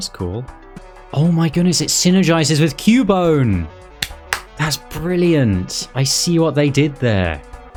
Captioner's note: clap clap